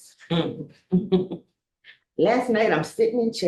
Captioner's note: board members giggling